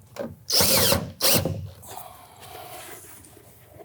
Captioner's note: tool whirring